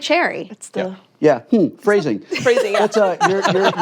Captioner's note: laughter